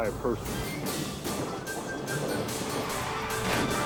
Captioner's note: playful music; tire screeches; alarm beeping; screen whooshes